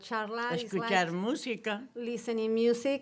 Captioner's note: speaks Spanish